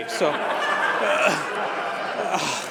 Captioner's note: laughter